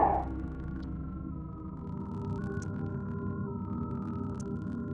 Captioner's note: electronic sounds